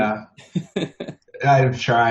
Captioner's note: laughs